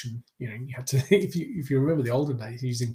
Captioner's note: chuckles